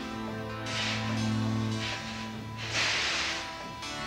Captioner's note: engine hissing